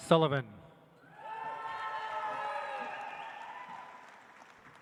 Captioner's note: audience applauds